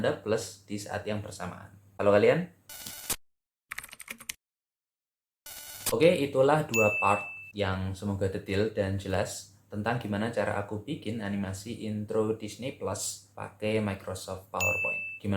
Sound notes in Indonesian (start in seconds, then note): 2.7 suara interferensi; 3.7 suara mengetik; 5.4 suara interferensi